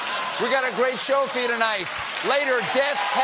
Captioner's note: laughter